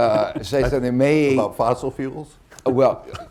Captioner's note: laughs